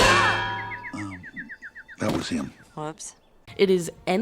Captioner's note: b a n g